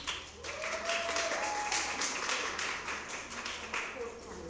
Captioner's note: cheering and applause